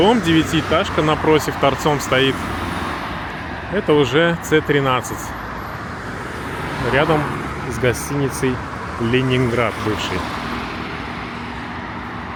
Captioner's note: road noise